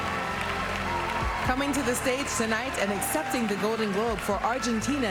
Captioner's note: applause